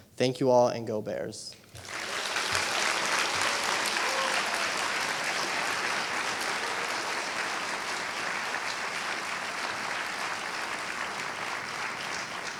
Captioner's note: applause